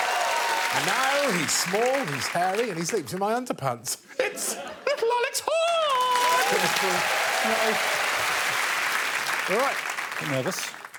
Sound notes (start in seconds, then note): 4.2 audience laughing; 5.6 audience applauding